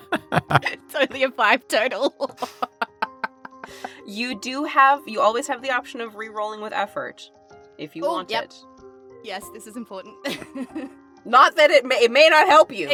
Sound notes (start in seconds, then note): 0.0 laughs; 10.3 chuckles